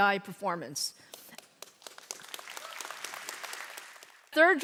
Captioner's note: audience clapping